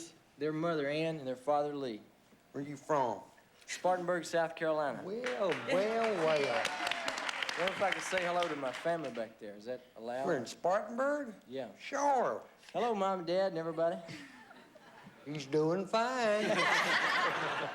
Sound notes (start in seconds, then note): 1.8 in a southern accent; 15.1 in a southern accent